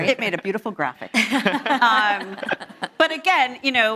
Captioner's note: panelists laughing